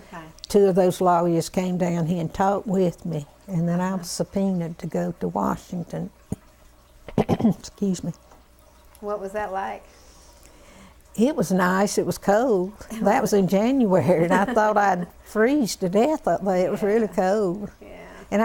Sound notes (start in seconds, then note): 7.0 cough; 17.9 laughter